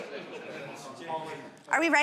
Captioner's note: audience speaking